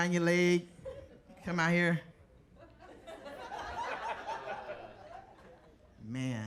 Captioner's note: audience laughing